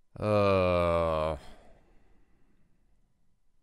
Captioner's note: groans